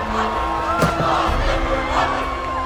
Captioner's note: crowd